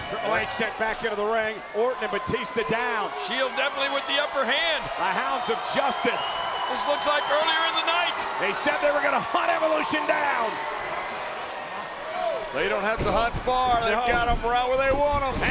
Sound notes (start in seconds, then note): 6.3 audience cheers